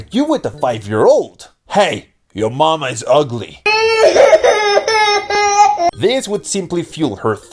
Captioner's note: child crying